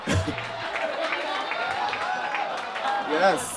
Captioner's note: audience claps and laughs